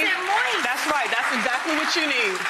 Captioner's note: applause